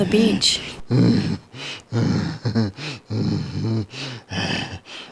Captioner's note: Groden groans and chuckles